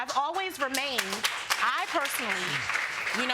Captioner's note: audience applauds